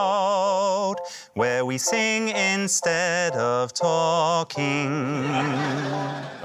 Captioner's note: laughter